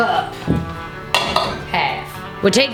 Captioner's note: clanking